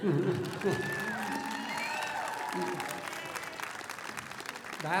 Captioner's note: applause